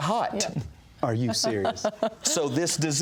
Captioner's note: laughs